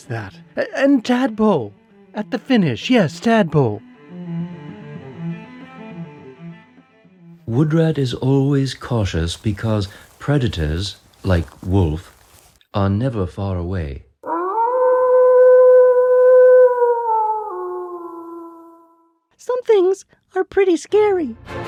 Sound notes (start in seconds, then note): 14.2 wolf howling; 21.4 ominous music